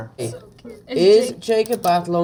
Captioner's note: whispers